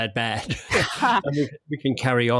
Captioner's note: both chuckle